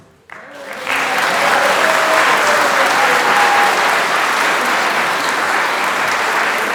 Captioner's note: applause